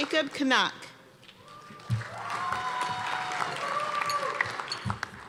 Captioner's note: cheers and applause